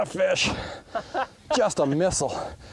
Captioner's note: laughing